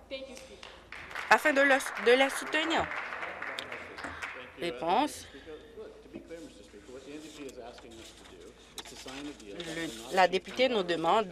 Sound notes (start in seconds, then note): 4.3 applause